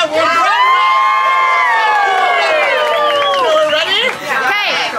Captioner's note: crowd cheers